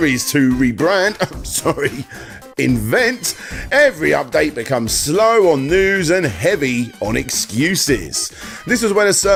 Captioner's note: cough